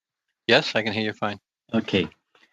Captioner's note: speaking French